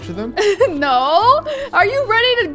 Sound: laughs

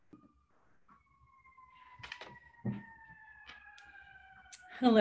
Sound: distant sirens

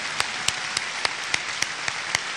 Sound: applause

